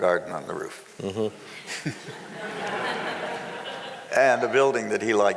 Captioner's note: laughing